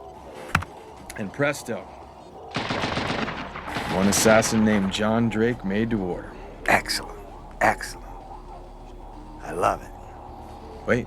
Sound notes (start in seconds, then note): 2.5 gun firing